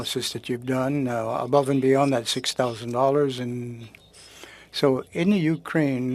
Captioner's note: speaking French